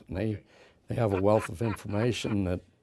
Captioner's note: laughs